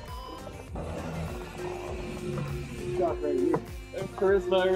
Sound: bell dings

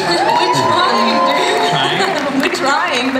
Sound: cheering

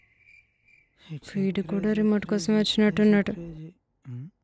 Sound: Nandan humming

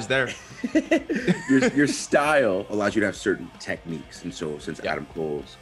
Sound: laugh

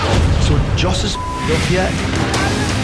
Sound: beep

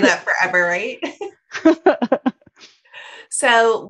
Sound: women laugh

